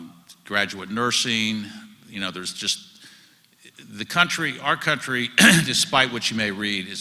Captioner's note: cough